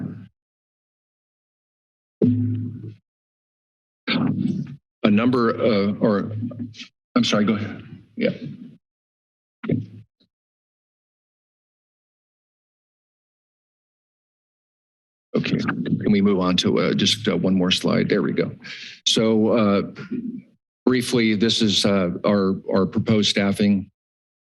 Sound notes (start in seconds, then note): 0.2 pause; 8.7 pause